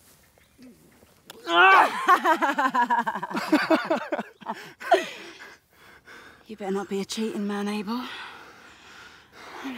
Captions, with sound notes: - [Cries in pain again] - [laughs] You better not be a cheating man Abel.